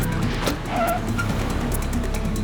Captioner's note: tires screech